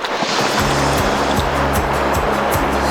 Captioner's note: water splashing